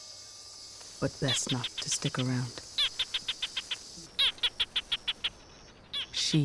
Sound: gecko chirping

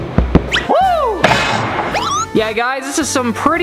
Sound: cheers

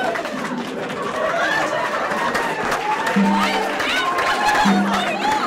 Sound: sound of clapping

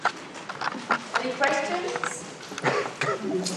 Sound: voiceover

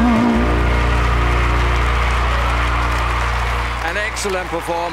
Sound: crowd cheers

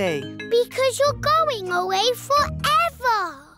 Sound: none

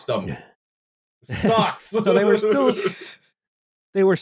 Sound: laughs

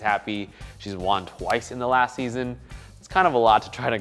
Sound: hand slaps

